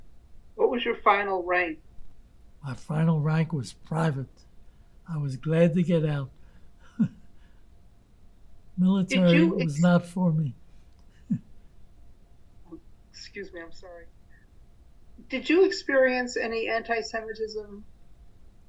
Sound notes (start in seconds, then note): 6.1 laughing